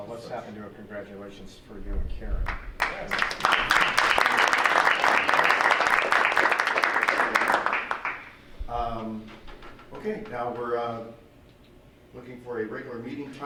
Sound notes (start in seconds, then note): 2.7 clapping